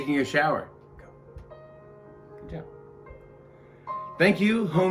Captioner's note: whispering